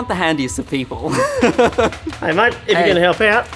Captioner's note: laughing